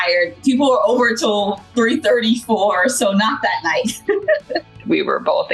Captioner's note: laughing